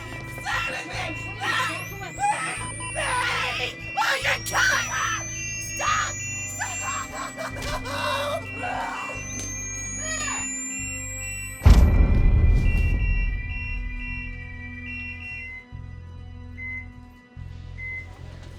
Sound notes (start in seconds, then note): 9.8 high pitched charging whine; 11.6 loud electric thump; 16.5 beeping steadily